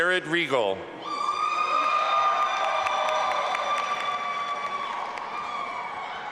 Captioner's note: audience applauding and cheering